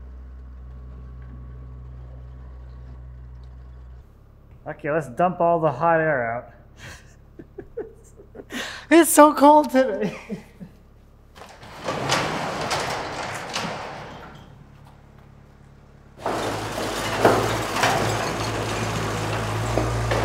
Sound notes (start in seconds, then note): 6.8 chucking; 9.8 laughing; 11.3 door clanging; 16.2 machine clanging; 20.0 wood thudding